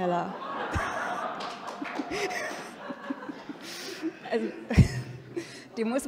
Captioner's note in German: Publikum lacht